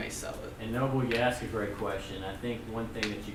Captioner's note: voiceover